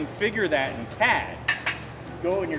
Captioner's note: metal clanking